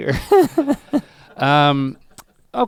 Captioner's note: Rhett chuckles